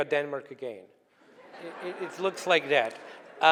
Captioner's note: laughing